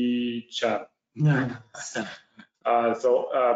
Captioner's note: all laugh